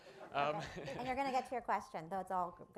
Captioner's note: laughter